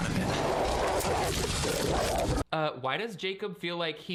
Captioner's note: Jacob growling